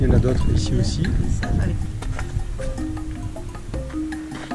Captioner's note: none